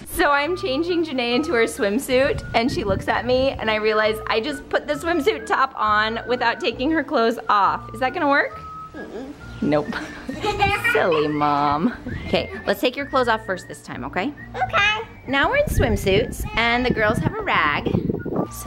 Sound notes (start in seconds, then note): 9.8 laughs